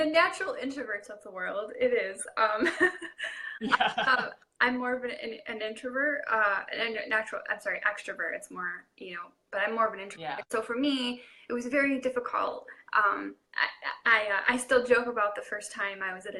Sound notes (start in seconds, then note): 3.2 laughing